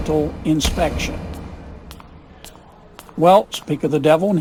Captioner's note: footsteps approach